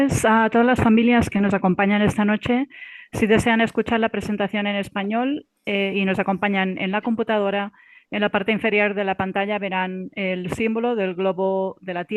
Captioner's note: speaking in foreign language